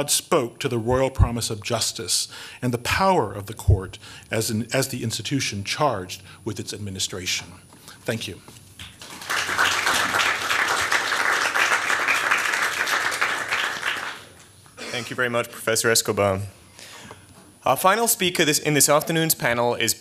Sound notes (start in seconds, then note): 8.8 applause